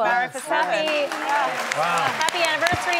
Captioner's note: clapping